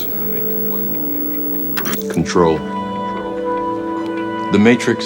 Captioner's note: static hissing